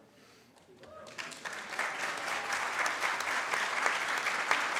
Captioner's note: audience claps